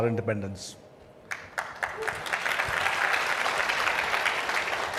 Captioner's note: audience claps